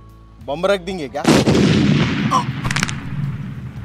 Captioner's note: Blast Sound